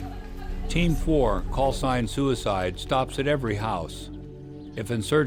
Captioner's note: voiceover